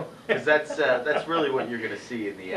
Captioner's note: laughs